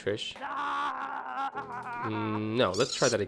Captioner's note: screaming